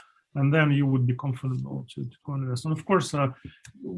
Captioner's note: faintly speaking